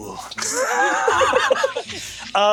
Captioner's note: laughing